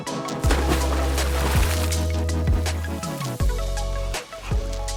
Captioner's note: water splashing